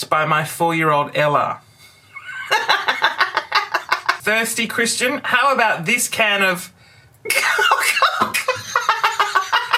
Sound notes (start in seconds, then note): 2.2 raucous laughter; 7.3 laughter